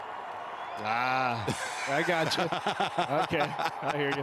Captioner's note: laughs